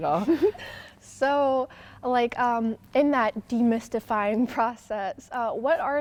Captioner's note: chuckling